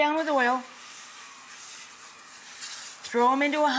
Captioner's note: oil fizzes